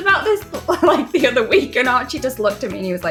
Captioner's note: laughing